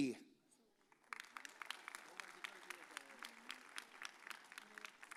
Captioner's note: audience applauds